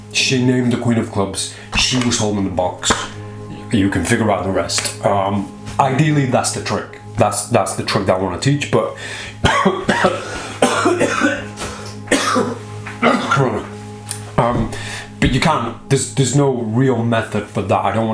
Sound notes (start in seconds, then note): 9.3 coughing